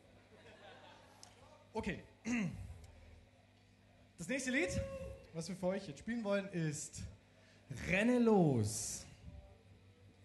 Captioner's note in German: räusper